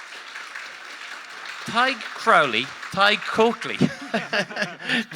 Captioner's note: audience applauding; laughs